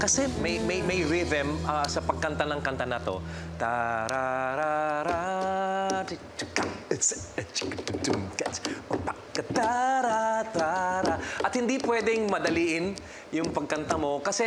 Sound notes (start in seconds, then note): 3.6 beatboxing; 3.8 vocalizing